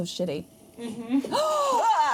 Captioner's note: gasping